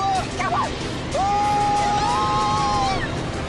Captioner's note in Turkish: Çığlık atarak